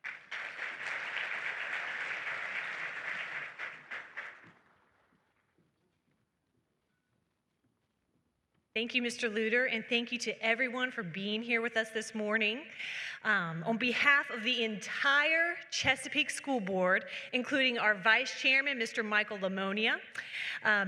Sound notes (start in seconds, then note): 0.0 applause; 4.6 silence